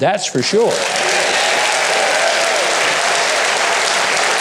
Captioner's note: audience applause